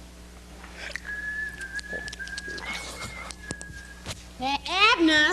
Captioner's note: whistling in the distance